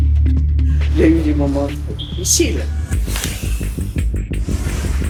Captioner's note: French spoken audio